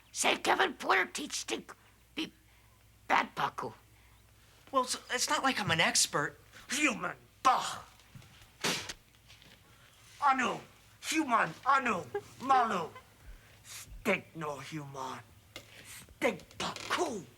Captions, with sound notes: say Kevin Porter teach Stink be bad Paku. - Well it's, it's not like I'm an expert. - Human! (scoffs) (Paku spits) Anu, human. Anu Malu. Stink no human. Stink Paku!